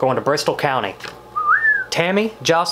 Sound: whistles

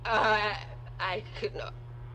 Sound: stutters

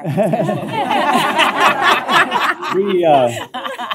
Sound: laughter

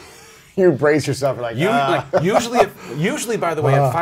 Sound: laughs

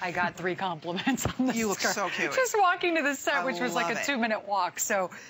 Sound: laughter

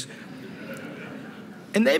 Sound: laughter

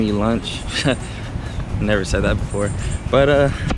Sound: laugh

